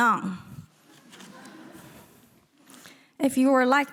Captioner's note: audience giggling